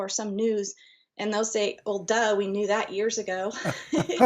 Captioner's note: chuckles